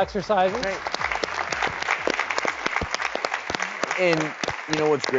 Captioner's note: audience claps